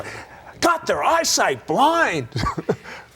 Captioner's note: laughs